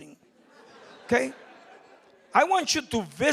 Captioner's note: crowd laughing